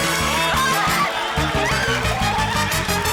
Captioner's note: gasping